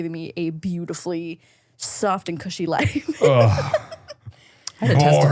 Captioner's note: laughs